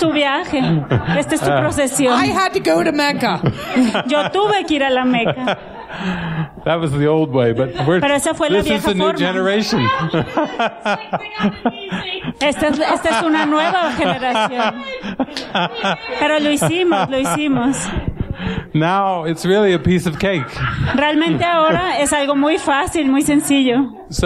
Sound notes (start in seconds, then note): 0.0 laughter; 14.3 laughter